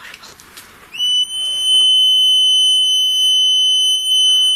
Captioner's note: beeping